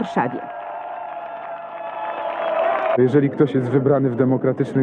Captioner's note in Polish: Aplauz